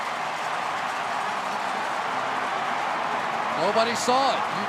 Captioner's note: crowd cheering